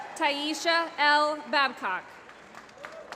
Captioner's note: applause